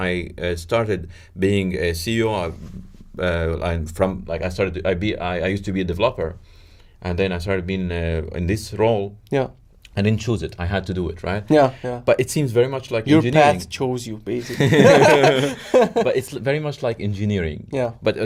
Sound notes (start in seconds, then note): 14.5 laughs